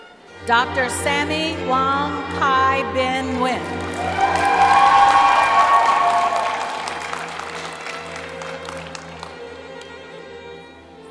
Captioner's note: cheering; applause